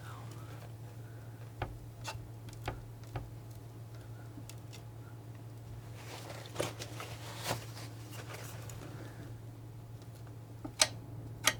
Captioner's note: tapping